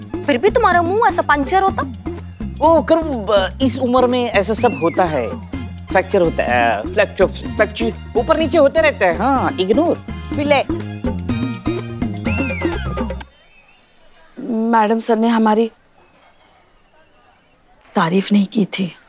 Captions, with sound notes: Why do you look so sad? It happens with age. [stammering] It keeps fluctuating. Ignore it. Billu! Maddam Sir wasn't praising me.